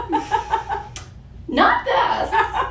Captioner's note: laughs